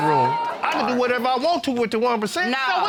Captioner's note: audience exclaims